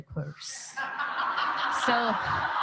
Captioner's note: laughing